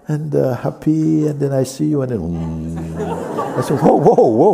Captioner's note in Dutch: gelach